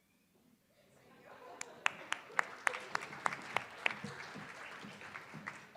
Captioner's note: attendees applauding